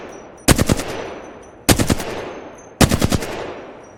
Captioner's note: sound of shooting; sound of shooting